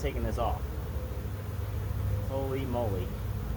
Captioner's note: bees buzzing